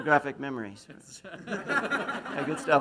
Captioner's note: laughs; whispers